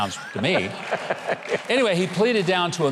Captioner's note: laughing